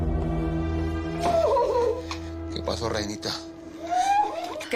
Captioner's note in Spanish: Luz solloza